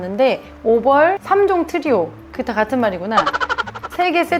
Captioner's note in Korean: 웃음